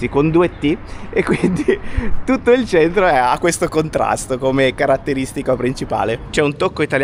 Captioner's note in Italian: risate